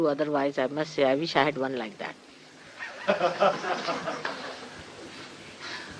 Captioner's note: laughter